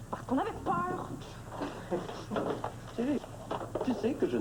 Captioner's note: Rires